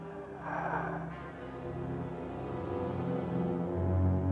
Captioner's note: brooding music continues; Gustaf exhales sharply; tense music